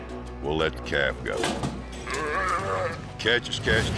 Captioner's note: calf moos